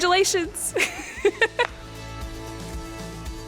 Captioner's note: laugh